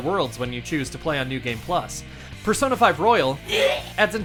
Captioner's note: wretching